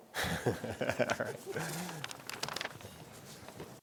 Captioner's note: laughs